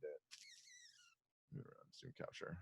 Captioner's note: camera shutters